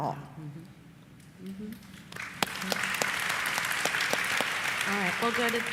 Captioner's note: applause